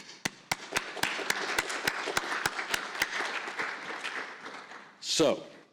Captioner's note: applause